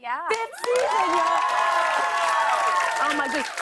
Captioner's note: cheers and applause